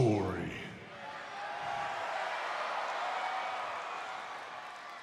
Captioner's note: crowd cheering